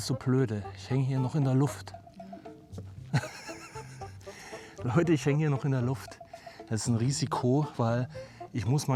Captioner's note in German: gelächter